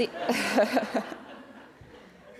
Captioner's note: laughter